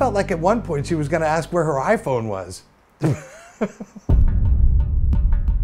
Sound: chuckles

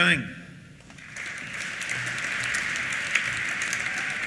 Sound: applause

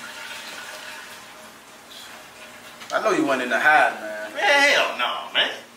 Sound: toilet flushes

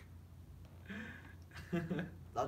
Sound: laugh

